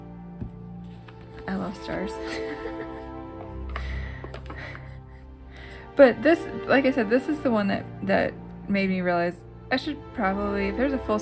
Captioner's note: laugh